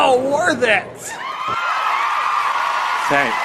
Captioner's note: applause and cheering